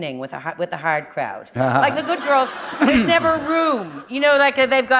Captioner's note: laughter